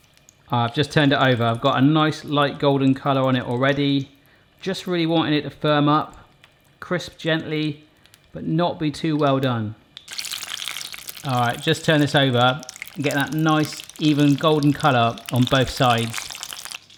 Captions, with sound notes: I've just turned it over, I've got a nice light golden colour on it already. Just really wanting it to firm up, crisp gently but not be too well done. (sizzling) Alright, just turned this over. Getting that nice, even golden colour on both sides.